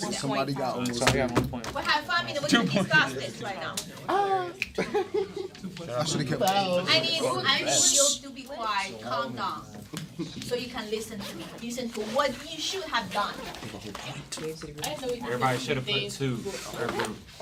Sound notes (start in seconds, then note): 4.7 students murmur